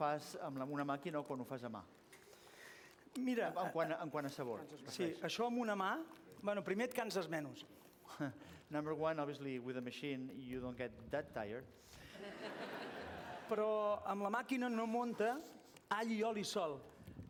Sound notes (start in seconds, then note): 12.1 laughter; 14.5 non-english speech